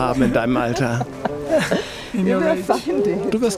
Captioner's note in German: Lachen